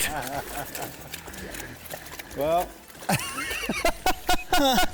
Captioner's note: group laughter